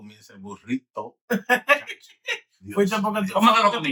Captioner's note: speaking In Foreign Language